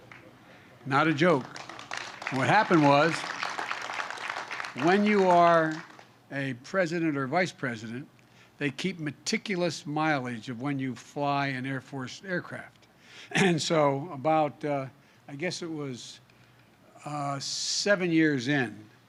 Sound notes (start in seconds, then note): 0.8 applause